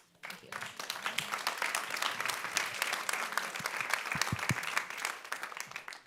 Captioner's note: audience claps